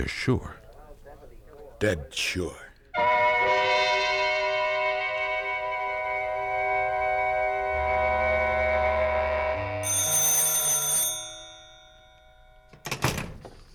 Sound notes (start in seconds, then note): 2.9 train whistle blaring; 9.8 telephone rings